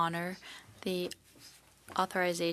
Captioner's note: speaking French